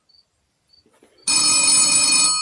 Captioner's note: phone ringing